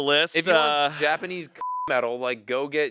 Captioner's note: beep